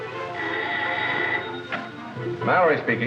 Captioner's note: phone rings